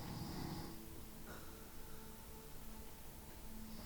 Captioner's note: snoring; eerie ambient music